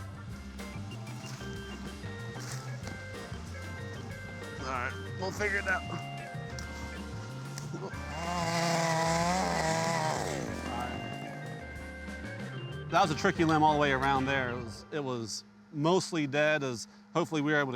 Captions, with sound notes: (soft music) All right, we'll figure that. (chainsaw humming) That was a tricky limb all the way around there. It was mostly dead, as hopefully we were able